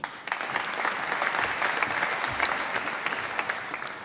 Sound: applause

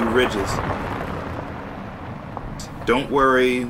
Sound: engine humming

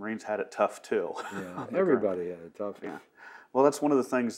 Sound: laughs

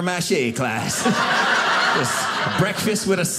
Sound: audience laughing

